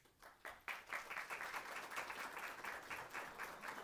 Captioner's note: applause